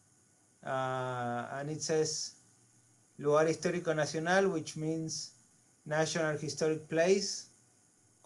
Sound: spanish

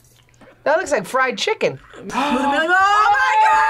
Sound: gasps

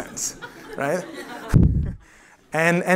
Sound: laughter

